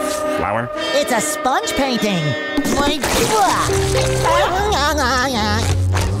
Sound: giggling

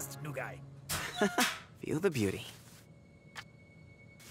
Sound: chuckling

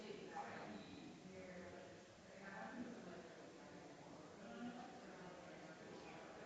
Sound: people chattering distantly continues

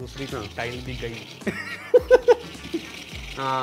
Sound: both laugh

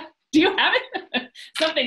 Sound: laughs

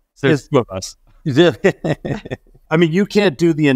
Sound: laughs

